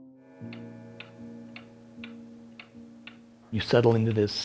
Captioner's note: clock ticking